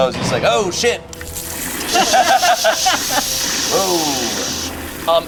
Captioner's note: water splashes